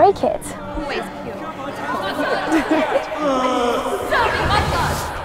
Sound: students chattering

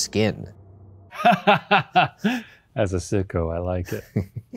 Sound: laughs

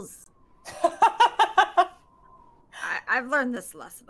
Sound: game Master laughs

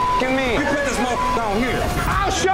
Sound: beep

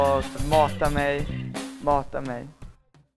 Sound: Italian

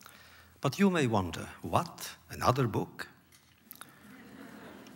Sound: laughter

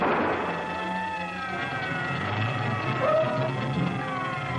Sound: gun fires; police siren blaring

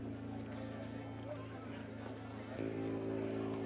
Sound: saloon chatter

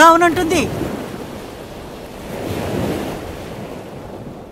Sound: waves rumbling

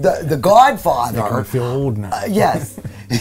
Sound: chuckles

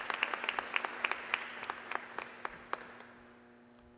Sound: applause

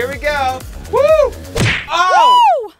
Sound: smacking sound; splashing

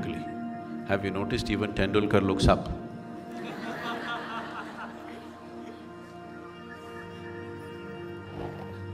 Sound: laughter

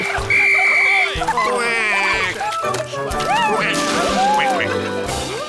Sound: quacks; blows whistle

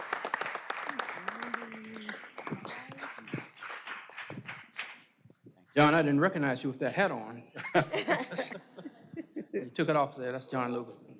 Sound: applause

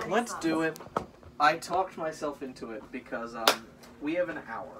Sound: claps

